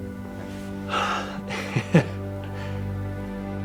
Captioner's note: exhales, chuckles